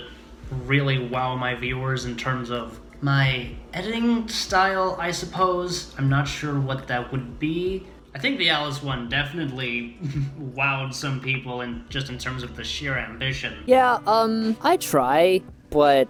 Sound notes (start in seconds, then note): 10.0 chuckles